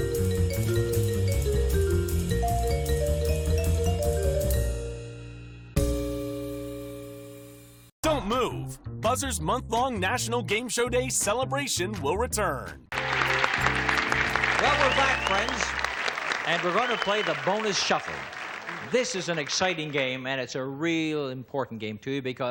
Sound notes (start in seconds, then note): 13.9 audience cheers